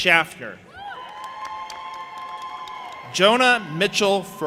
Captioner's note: audience applauding and cheering